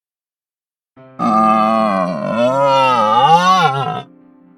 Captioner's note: indian queer moaning